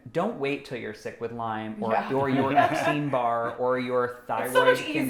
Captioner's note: laughing